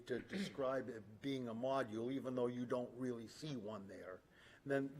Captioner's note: clears throat